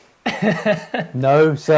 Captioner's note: laughter